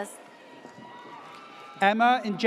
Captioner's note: audience cheers